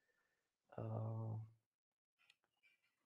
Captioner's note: none